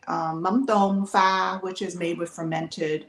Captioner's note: speaks Vietnamese